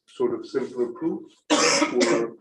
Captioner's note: coughs